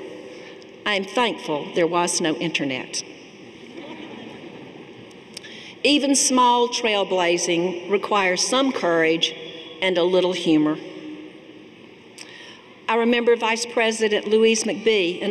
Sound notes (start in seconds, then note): 3.6 audience laughing